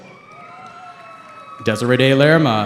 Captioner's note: cheering